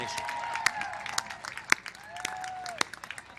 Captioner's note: applause